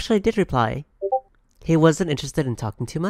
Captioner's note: Discord notification